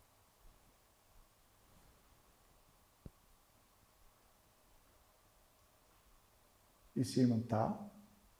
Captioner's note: silence